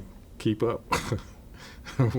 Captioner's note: laughs